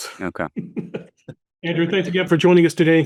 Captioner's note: laughing